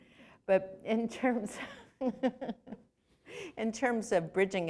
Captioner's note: laughter